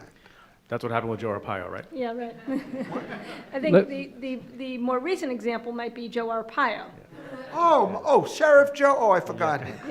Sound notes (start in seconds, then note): 4.6 laughter